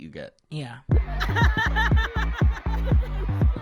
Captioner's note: laughing